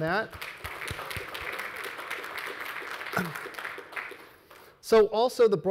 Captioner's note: audience and panelists applauding